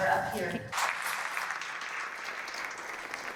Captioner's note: clapping